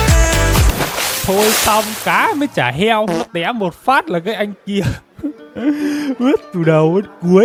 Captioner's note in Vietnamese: tiếng cười